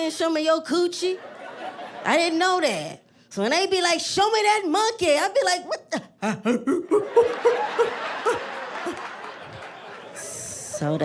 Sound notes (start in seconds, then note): 6.5 hooting; 8.3 laughter